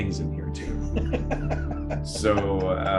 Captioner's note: laughs